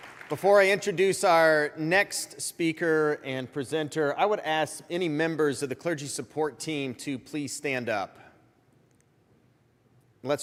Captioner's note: applause